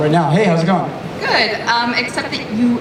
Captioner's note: voiceover